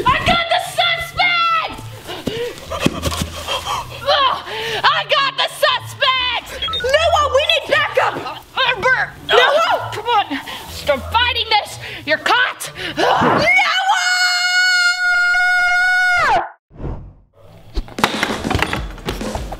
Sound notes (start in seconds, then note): 2.0 heavy panting